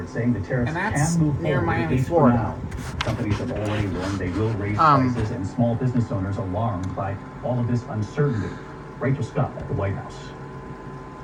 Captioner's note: "ABC World News Tonight with David Muir" continues playing on TV in background